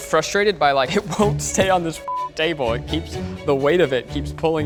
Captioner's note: beep